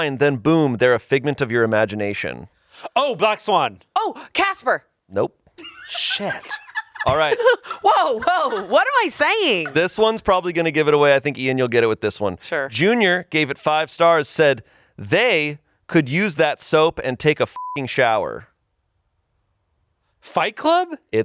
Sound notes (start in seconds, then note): 5.6 laughs; 17.5 beep